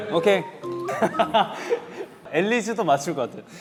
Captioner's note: bursts out laughing at the question